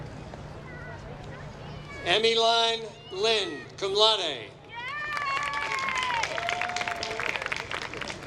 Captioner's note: applause